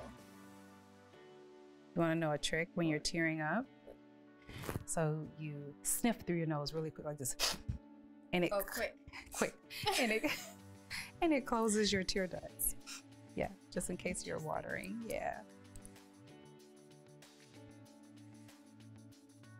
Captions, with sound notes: You want to know a trick when you're tearing up? So, you sniff through your nose really quick, like this (sniffs). - Oh, quick. (laughs) - Quick, and it closes your tear ducts. Yeah. Just in case you're watering. Yeah.